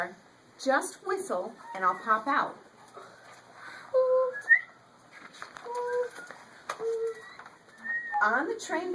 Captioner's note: children whistling in the background